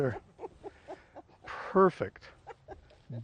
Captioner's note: laughs